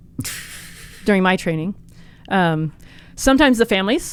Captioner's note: laughs